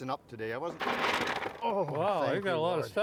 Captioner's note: aluminum foil creaks